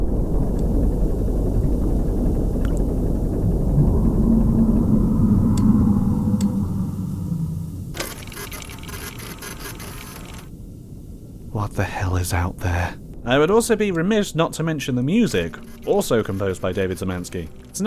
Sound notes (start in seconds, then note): 3.4 distant guttural roar; 7.8 photo station clicks and whirrs